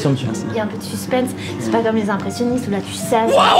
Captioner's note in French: ils discutent